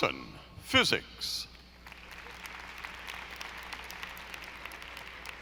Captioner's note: audience applauding